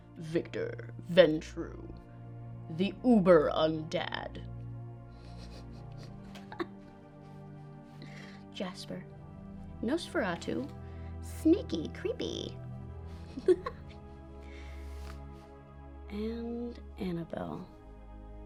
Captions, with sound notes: Victor Ventrue, the uber undad. (chuckling) Jasper, Nosferatu, sneaky, creepy. And Annabelle.